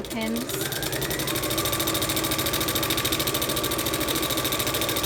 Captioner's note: machine whirs